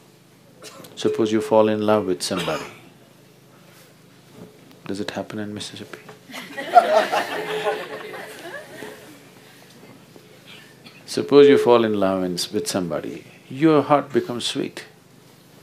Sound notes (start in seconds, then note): 6.3 laughter; 6.3 笑聲